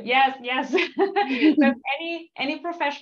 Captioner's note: laughter